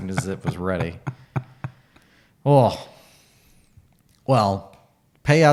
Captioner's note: laughing